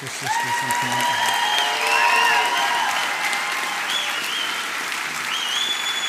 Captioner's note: applause